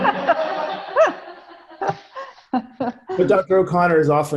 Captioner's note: laughs